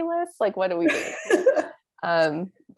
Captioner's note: laugh